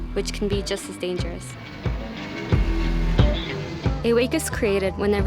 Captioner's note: airplane flying